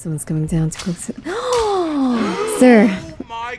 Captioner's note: gasp